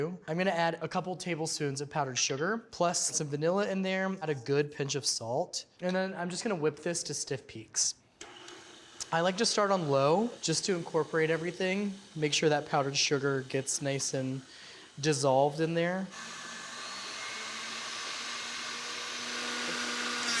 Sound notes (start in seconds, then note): 16.3 mixer whirring